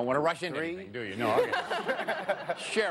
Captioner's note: laughter